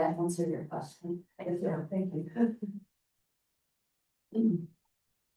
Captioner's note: chuckling